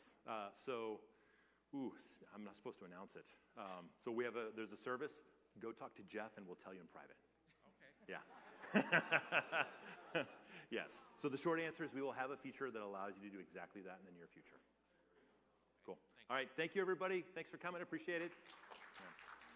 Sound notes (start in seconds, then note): 11.4 laughter